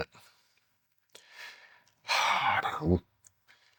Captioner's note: sighs